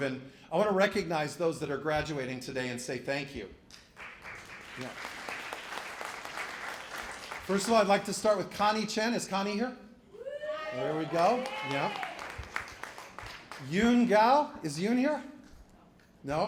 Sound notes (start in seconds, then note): 3.8 applause